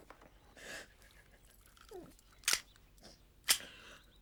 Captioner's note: Kate sobs